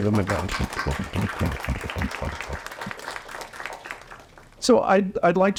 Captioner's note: applause